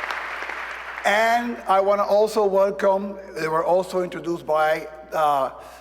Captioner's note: applause